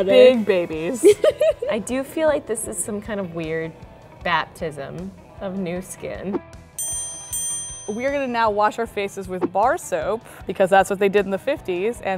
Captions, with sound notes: - Because we're big babies. (laughing) - I do feel like this is some kind of weird baptism of new skin. (bells ringing) - We are gonna now wash our faces with bar soap because that's what they did in the '50s